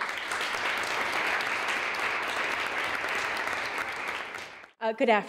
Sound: applause

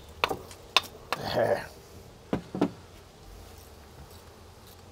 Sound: grunts

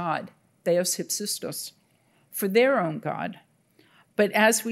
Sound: speaking in Greek

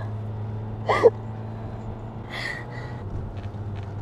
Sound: Elsa sobbing

